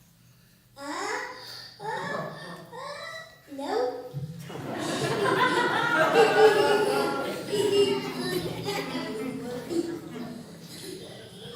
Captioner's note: audience laughter